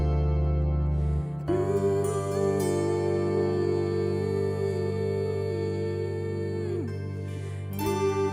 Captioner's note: humming